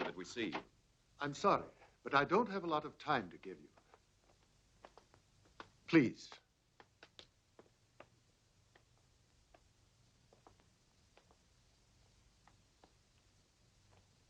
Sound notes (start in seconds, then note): none